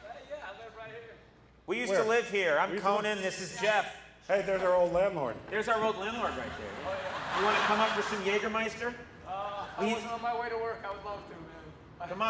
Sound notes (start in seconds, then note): 6.3 audience laughs